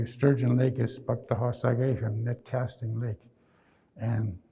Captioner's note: speaking in Nêhiyawêwin